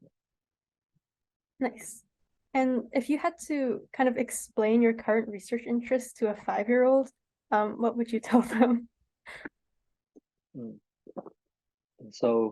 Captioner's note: laughs